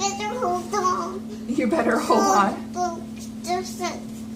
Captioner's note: laughing